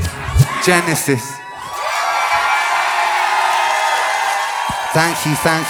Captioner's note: crowd cheering